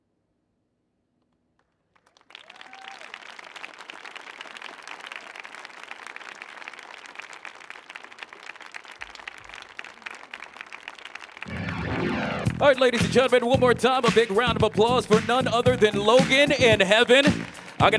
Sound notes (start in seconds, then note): 1.8 audience applauding; 2.2 audience cheering